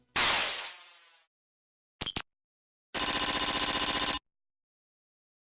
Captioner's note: typing